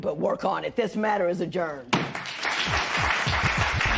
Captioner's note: applause